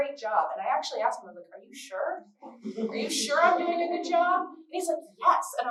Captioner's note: laughter